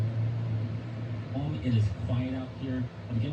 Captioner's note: on TV